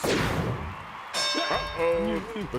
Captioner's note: bell dings